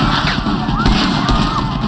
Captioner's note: patrons screaming